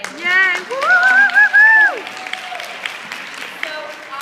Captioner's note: applause